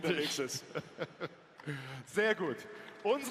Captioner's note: laughs